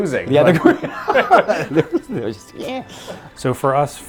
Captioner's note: both laughing